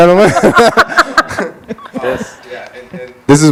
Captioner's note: all laughing